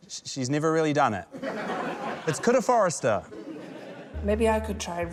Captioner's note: laughter